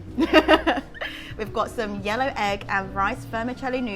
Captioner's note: laughs